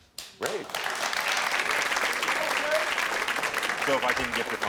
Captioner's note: audience applaud